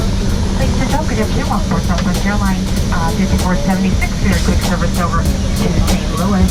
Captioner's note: flight attendant speaks over PA